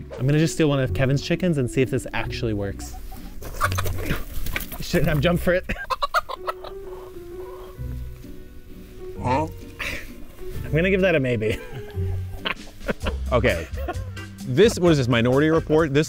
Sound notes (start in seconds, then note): 2.8 chicken squawking; 11.3 laughing